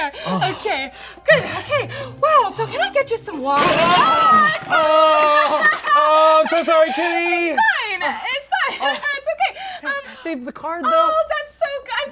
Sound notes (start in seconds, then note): 1.1 pants; 3.6 chair crashes to the ground; 3.8 scream